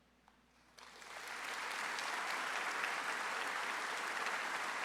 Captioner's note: audience applauds